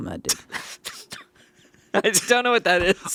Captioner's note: laughing